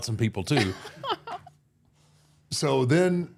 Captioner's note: laughing